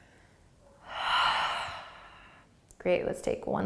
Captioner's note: exhaling